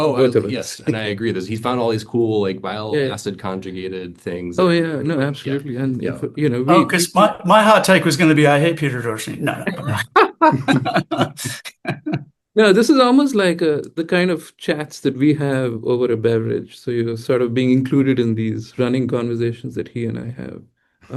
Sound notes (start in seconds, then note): 9.6 panelists laughing